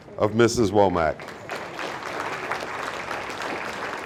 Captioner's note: audience applauding